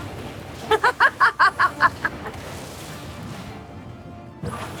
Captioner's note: laughter